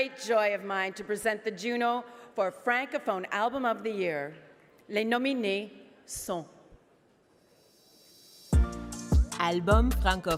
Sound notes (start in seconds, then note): 3.6 speaking French